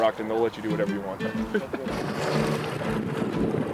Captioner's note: laugh